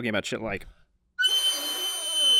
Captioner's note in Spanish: Chillido intensivo